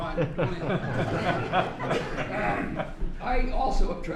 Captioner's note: laughter